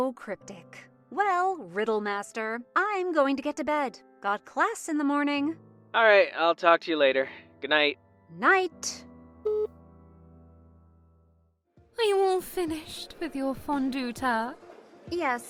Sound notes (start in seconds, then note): 6.2 phone vo